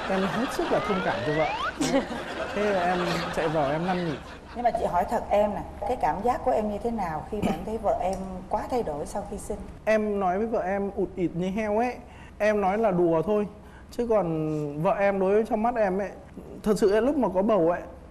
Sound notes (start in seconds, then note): 1.7 laughing